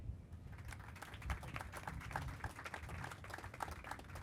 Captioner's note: crowd applauding